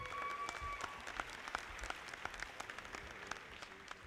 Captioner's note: audience applauding